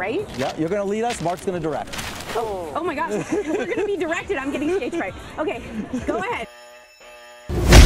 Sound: TV Sound

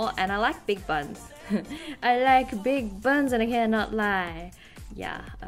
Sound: chuckles

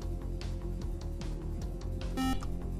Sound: buzzer

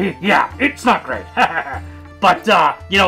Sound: laughs

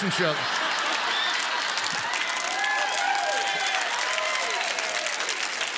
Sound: congregants cheer and applaud

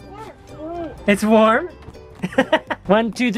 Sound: laughs

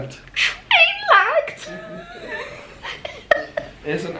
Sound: laughs

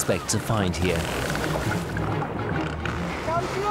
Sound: dolphin clicking

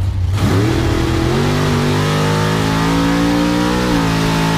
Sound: engine roaring

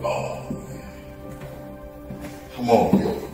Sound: footsteps

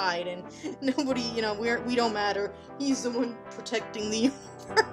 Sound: laughing

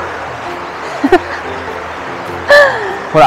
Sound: laughs

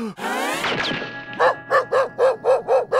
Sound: barking

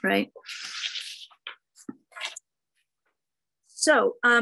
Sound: paper rustles

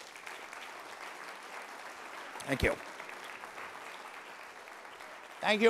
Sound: applause

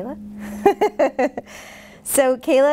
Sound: laughing

